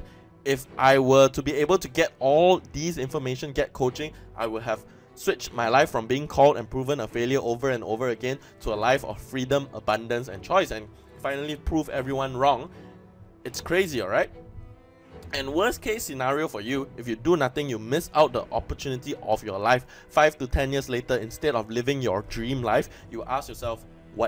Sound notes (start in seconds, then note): none